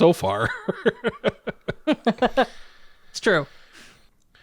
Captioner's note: laugh